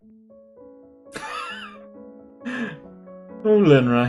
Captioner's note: laughs